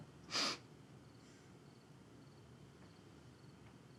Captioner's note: Tania sniffles